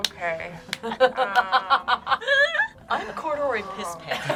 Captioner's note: group laughs